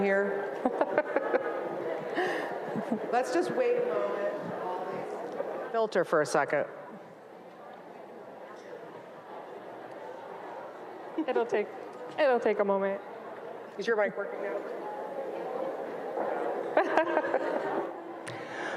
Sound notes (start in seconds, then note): 0.2 chuckles; 4.3 speaks faintly; 16.8 chuckles